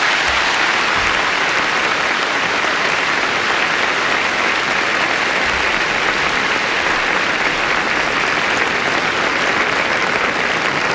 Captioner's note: applause